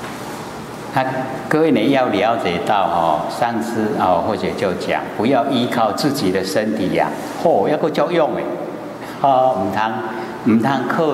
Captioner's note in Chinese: 台語